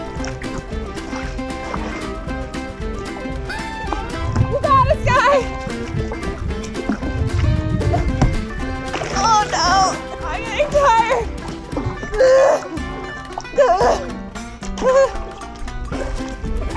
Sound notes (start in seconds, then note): 11.7 tired cries